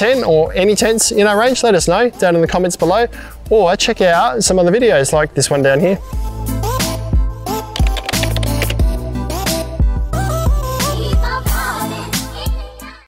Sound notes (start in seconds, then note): 6.1 upbeat music; 7.7 keyboard clicking